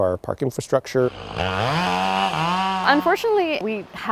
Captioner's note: saw buzzes